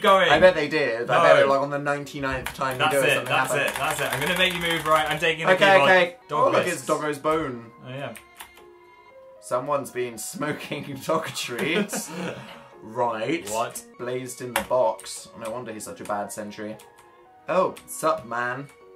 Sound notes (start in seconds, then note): 2.4 frantic clicking; 2.4 more frantic clicking; 11.4 both laugh